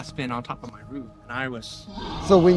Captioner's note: Bigfoot growling